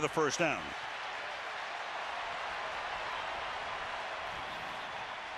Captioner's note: cheering